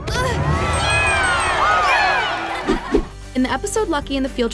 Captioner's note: crowd cheering